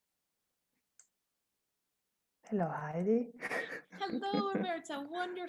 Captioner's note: laughter